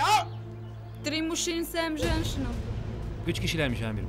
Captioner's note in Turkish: Rusça cevap veriyor